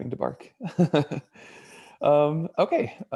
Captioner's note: chuckles